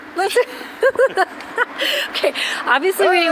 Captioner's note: laughing